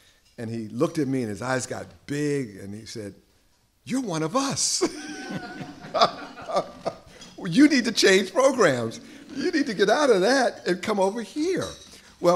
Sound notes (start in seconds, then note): 4.8 laughter; 4.8 laughs